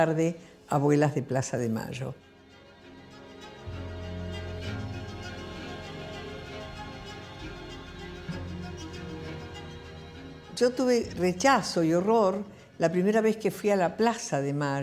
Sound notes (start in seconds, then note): 3.8 dramatic music; 10.5 foreign language